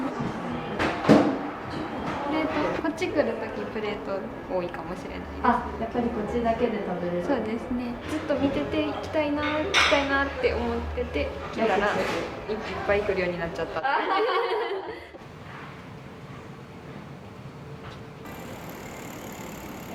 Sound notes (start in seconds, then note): 14.5 laughs